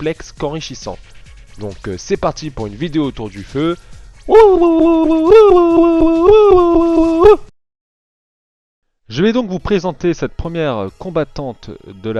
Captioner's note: Indian shouts